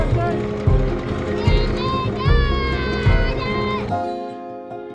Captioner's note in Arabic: يصرخ بعزفًا; موسيقى البيانو